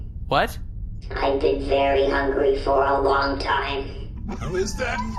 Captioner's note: in robotic voice